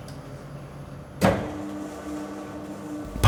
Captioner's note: the machine starts whirring